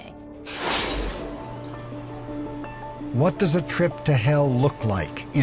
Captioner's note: machine sounds